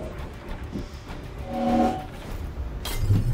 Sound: time freeze sound

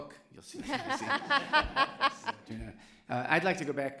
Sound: laughter

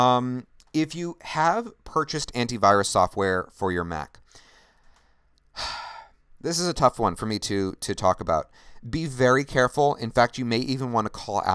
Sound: sighs

